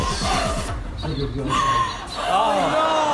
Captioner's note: person gasps